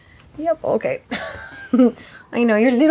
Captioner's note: chuckles